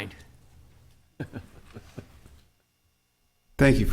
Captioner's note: laughing